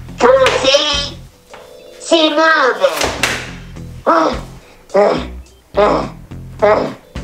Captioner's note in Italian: rumore porta